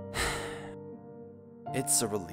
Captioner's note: sigh